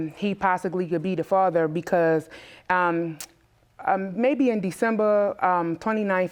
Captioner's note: none